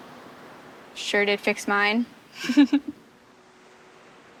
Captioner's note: laughs